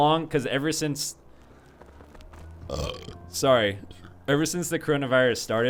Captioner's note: burps